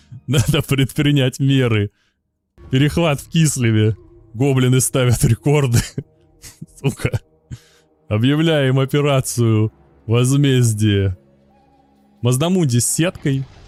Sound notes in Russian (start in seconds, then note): 6.4 смех